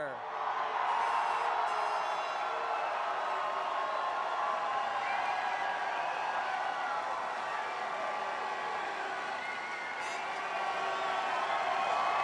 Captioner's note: cheers and applause